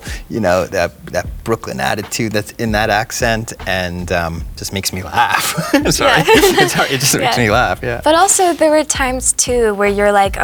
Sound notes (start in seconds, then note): 5.1 laughs